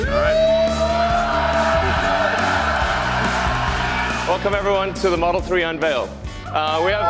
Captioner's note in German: Beifall